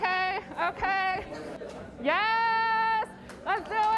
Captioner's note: speaks Chinese